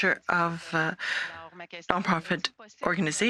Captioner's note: speaking French